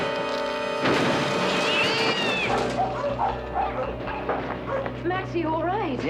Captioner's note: clattering; cat howls